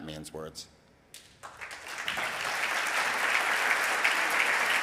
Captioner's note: audience clapping